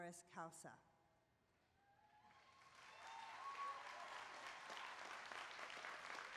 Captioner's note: applause